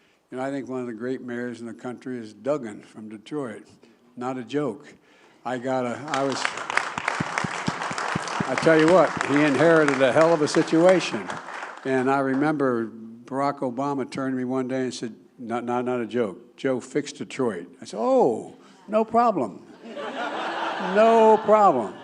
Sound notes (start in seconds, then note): 11.3 applause